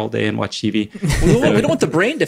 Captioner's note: laughs